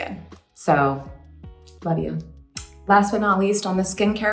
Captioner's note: smacks lips